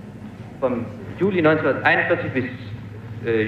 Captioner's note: man speaking German